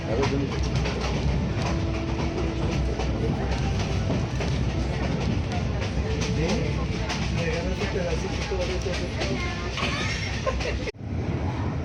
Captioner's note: sound of train